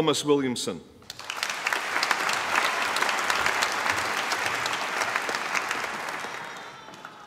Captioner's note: applause